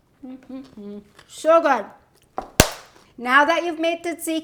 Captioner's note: claps hands